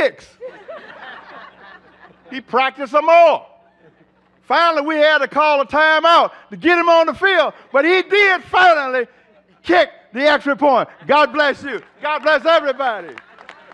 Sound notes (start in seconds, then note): 3.6 laughter